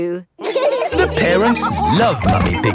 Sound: all laughing

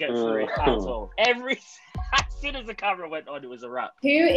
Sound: laughs

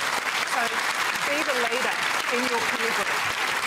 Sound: applause

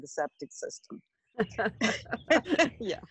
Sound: laughing

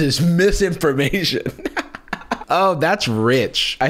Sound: laughs

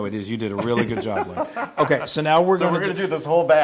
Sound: laugh

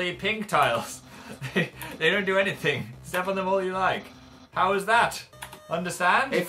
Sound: chuckling

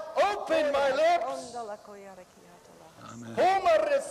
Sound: speaking in tongues

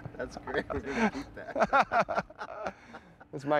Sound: laughter

